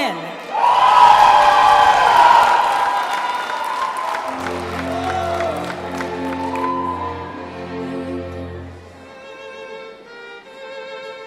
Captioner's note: applause and cheering